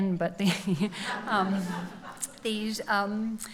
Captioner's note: laughs